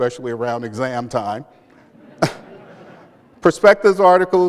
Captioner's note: laughter